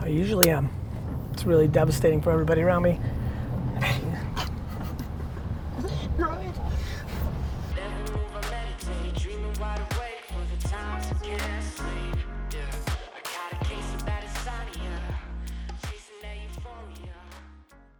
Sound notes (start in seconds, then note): 3.7 laughing; 7.9 relaxed hip-hop music